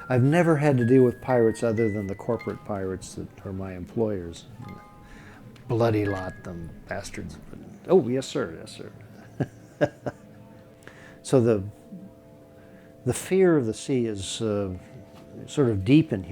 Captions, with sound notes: I've never had to deal with pirates other than the corporate pirates that are my employers. A bloody lot them bastards. Oh yes sir, yes sir. (laughing) So the fear of the sea is sort of deep in humanity.